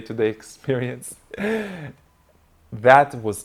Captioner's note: laughing